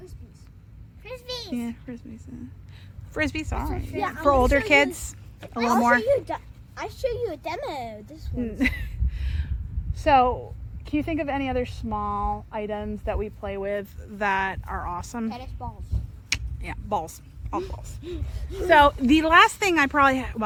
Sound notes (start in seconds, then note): 16.2 clicks tongue